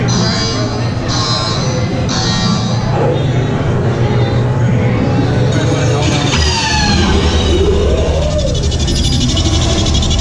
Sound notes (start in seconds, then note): 0.2 buzzer ringing; 6.0 mechanical humming